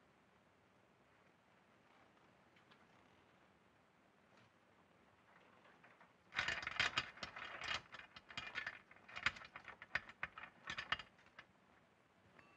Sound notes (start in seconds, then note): 6.3 chain rattling